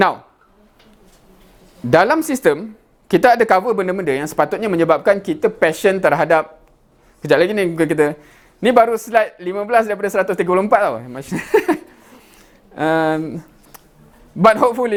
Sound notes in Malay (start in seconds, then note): 11.3 ketawa